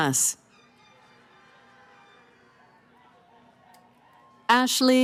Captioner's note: cheering